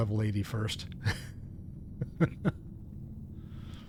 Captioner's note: laughs